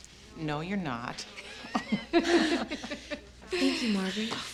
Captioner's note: all chuckling